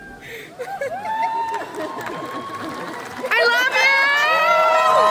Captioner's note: audience awkward laughs, cheers and encouragement